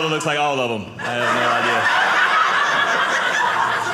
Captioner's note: audience laughing